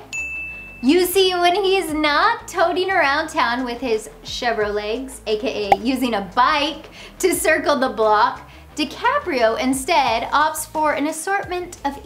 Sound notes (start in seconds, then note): 0.1 eye tinkles; 5.7 graphics pop